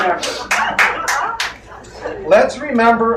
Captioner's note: crowd laughs and claps